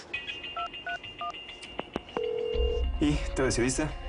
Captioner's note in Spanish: Sonido al marcar